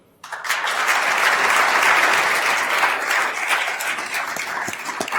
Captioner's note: attendees applauding